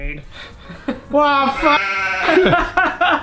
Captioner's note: cries; sheep sound; laughs